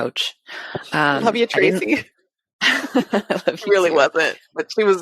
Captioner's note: laughs